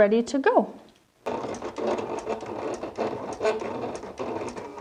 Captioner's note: machine buzzing